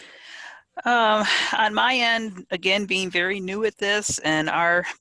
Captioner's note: sighs